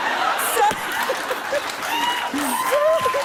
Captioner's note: laughter, cheers, applause